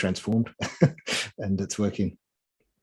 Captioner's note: chuckling